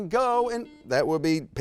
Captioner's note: buzzer beeps